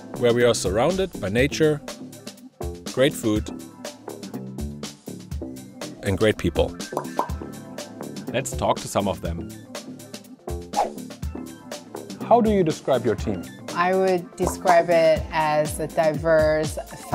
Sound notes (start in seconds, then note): 6.9 pop pop; 10.8 whoosh